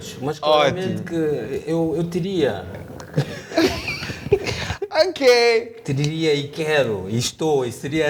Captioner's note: laughs